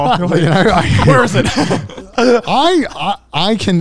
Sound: co-hosts laugh

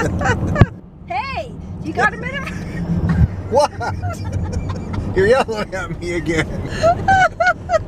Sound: yells; laughing

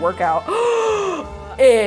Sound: gasps

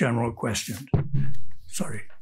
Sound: speaker thuds

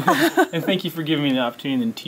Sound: laugh

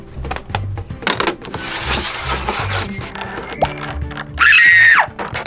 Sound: nails scratching; screams

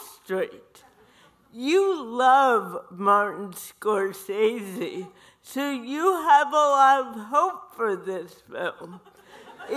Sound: audience laughter

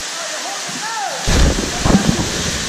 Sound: splash

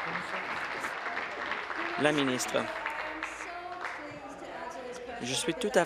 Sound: applause

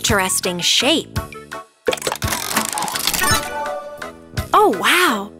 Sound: cranking

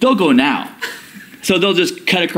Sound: laughter

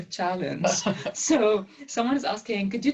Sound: laugh

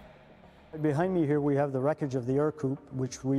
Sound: voiceover

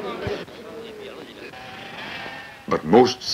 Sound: indiscriminate chatter; sheep bleating

